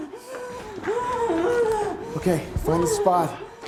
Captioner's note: Isabel weeping